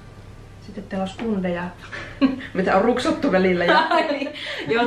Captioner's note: laugh